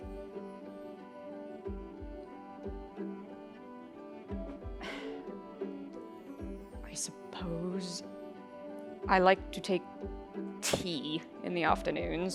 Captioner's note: sighing